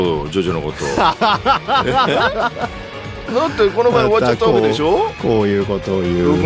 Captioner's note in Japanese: 笑い